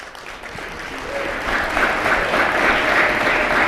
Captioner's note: applause